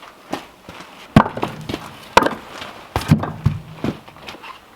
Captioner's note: logs thudding